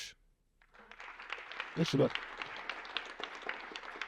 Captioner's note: applause